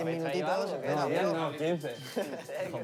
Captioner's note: laughs